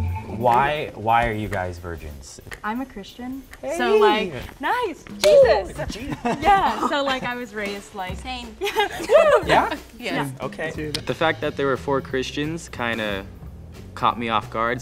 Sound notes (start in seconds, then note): 5.2 laughs